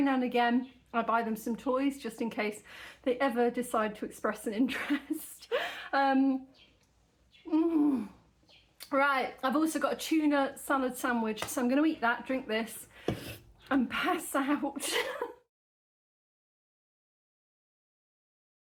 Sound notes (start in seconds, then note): 4.7 laughing; 14.7 laughing